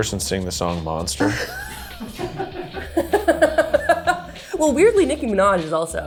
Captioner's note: laughs